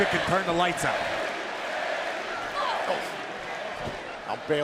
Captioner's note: crowd cheering